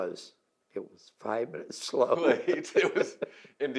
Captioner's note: laughs